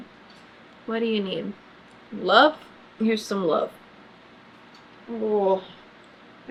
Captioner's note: groans